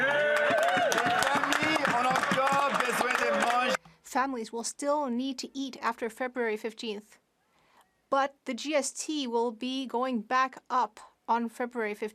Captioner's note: speaking French